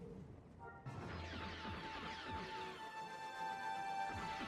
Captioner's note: soft curious music continues; laser blasting